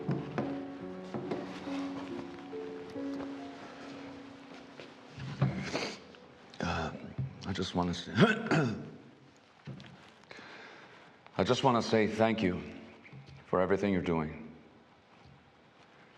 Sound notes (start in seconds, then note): 0.2 gentle music; 8.2 throat clearing